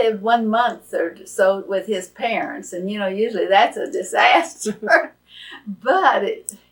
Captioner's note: laughs